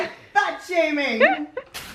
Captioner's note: laughs